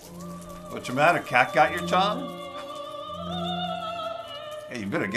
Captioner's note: laughs